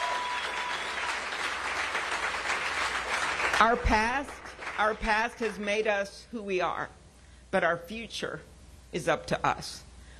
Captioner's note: cheers and applause